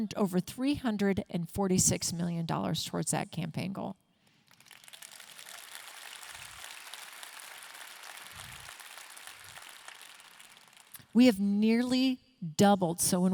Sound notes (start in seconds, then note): 4.4 audience clapping